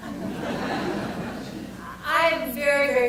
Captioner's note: audience laughter